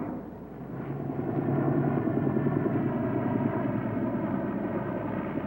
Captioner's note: helicopter humming